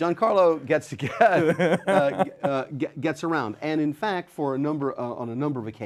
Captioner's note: laughs